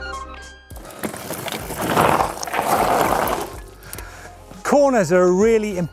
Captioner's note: bike scraping on the earth